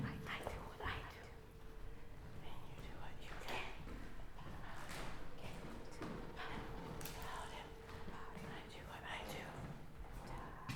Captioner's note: chant repeats in soft whispers